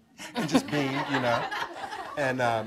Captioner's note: audience chuckling